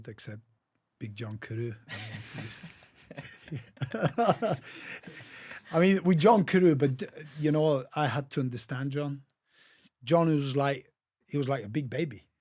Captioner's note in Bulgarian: Смях